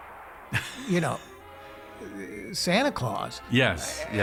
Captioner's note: laughing